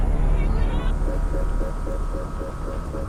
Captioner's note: people chattering; machine beeping